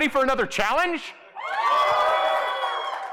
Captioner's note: weak cheers